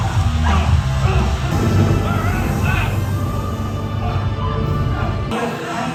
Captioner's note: Thor's thunder and lightning